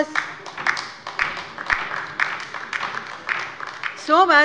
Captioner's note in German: Beifall bei der LINKEN